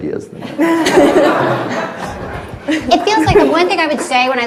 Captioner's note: everyone laughs